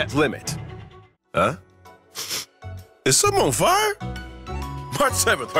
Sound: sniff

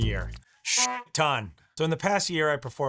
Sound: horn honks

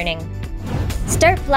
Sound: air whooshes

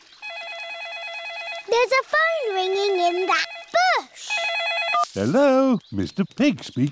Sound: ringing

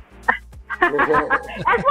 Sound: both laughing

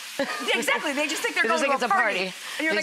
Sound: laughing

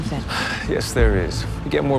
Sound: sighs

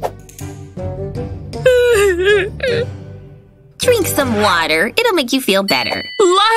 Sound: unrestrained sobs

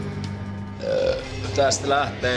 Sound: burp

